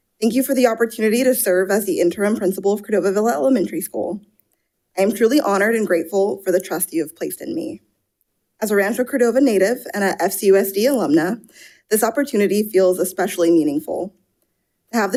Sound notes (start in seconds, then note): none